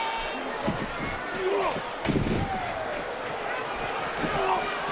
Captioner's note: bodies thudding